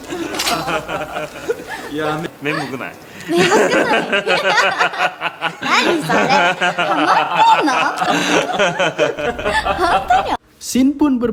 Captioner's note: laugh